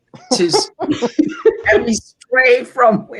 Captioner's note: laughing